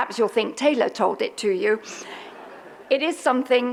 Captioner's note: audience laughs